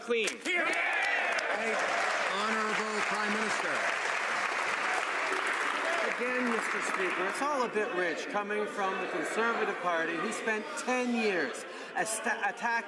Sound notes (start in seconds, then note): 3.4 some Applause